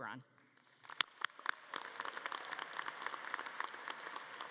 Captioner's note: audience clapping